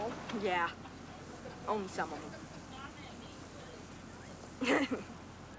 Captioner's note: laughing